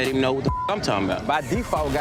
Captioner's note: beep